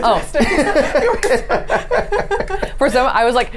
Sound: the group laughs

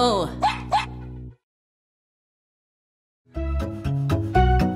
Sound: dog barks

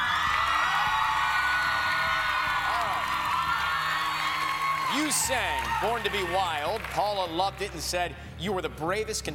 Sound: cheers and applause

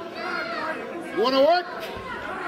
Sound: crowd screaming

